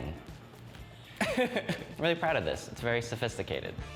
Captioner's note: laughs